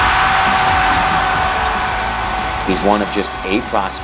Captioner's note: cheers and applause